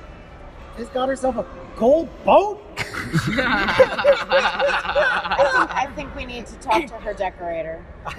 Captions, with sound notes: - "Viz got herself a gold boat!" (laughter) - "I think we need to talk to her decorator.